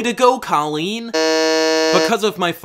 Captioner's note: buzzer